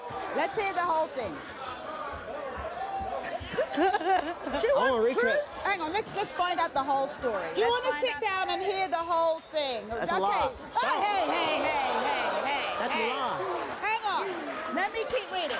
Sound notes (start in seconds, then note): 11.2 audience gasping